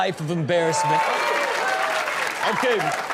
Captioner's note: audience claps